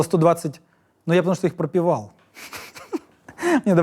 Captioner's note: laughs